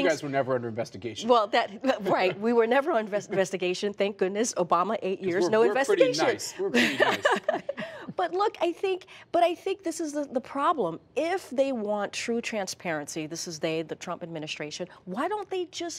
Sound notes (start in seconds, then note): 6.7 laughter